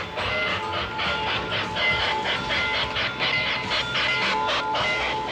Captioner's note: train bell ringing